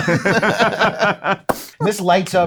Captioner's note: group laughing